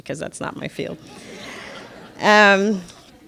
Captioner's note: audience laughs